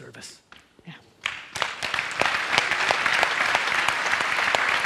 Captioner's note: audience applauds